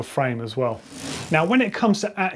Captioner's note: bike wheel spinning